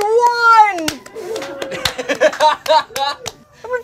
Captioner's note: laughing